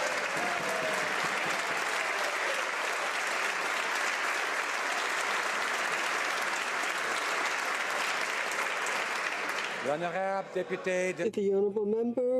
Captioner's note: some Applause